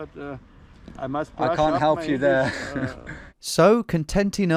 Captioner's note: chuckles